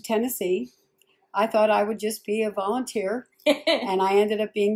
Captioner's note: laughs